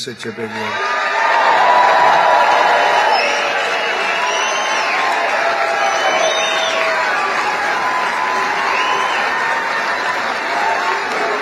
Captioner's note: cheering